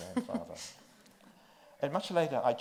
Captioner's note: chuckles